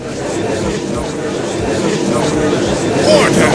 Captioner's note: gallery chattering